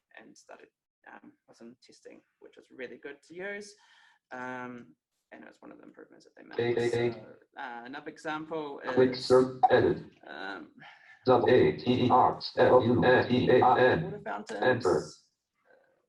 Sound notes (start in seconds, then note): 9.0 JAWS speaking disjointedly